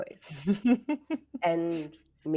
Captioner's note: laughs